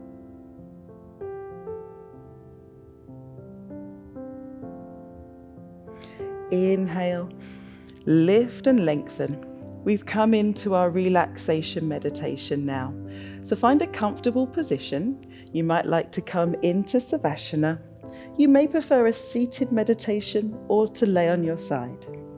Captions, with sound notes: (serene music continues) Inhale, (inhales) lift, and lengthen. We've come into our relaxation meditation now. So find a comfortable position. You might like to come into savasana. You may prefer a seated meditation or to lay on your side.